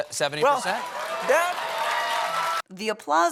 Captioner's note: cheers; cheers continue